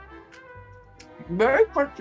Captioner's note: chip crunching